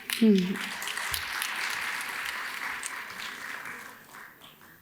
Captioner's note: audience claps